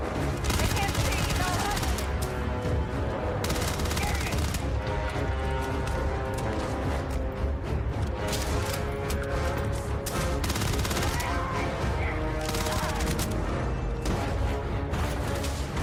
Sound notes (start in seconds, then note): 1.5 action music playing; 3.0 enemies yelling